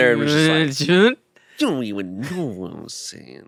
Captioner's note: mumbles